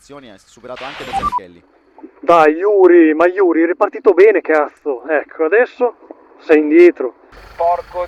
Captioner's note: team radio